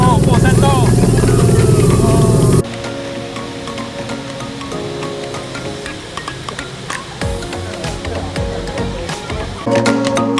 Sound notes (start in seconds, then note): 5.8 sound of waterfall